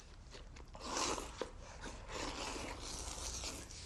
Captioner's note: Errol slurping